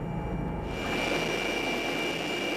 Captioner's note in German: Lautes Helikopterrattern